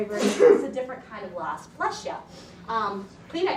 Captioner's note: audience member sneezing